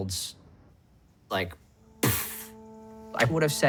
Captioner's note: imitates explosion